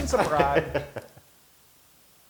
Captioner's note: laugh